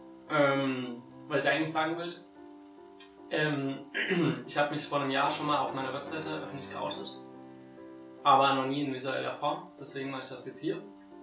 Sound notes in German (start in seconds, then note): 3.9 räusper